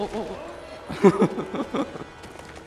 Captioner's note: laughing